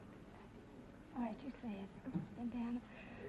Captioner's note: whispering